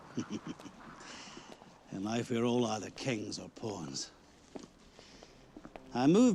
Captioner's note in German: Lacht